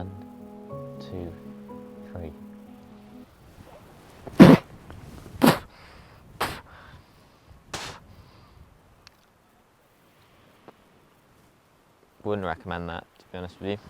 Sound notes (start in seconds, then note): 4.3 spit; 7.7 another weak spit